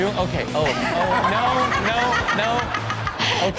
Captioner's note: Chanel laughs